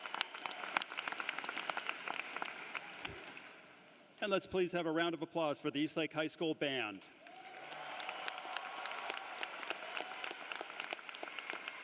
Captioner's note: cheering and applause